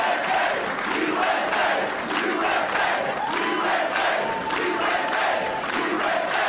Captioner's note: applause